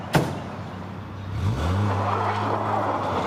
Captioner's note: car engine